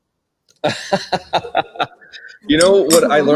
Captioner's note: laughs